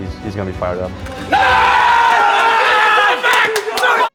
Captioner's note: team cheers